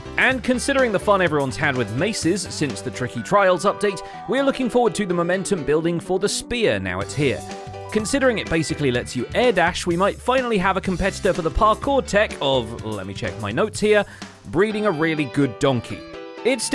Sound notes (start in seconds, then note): none